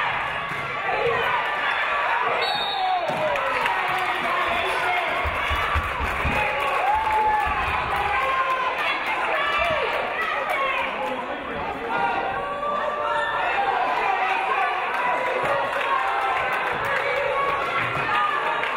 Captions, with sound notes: (referee blows whistle) Traveling violation.